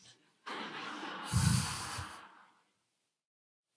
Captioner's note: laughter